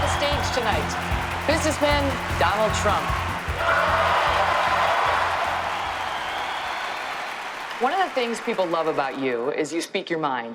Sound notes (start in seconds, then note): 0.0 cheering; 5.2 cheering